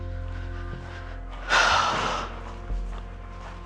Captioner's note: sighs